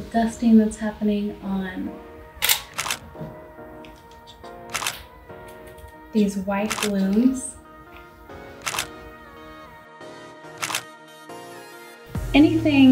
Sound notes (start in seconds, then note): 2.9 click; 8.8 click